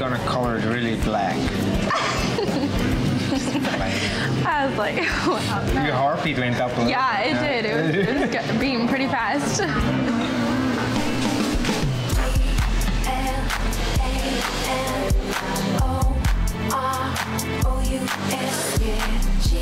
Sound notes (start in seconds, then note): 1.8 laughs